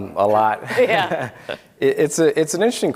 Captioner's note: all laugh